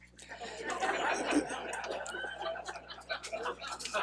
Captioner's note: laughing